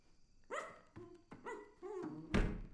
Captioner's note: playful barking; shuts door forcefully